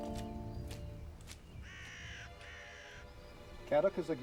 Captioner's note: birds call